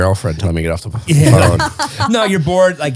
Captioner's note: laughing